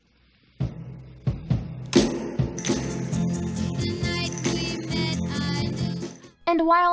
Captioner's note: slapping noise